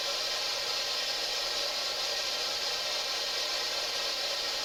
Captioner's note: white noise buzzes